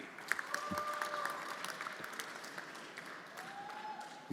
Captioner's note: everyone applauding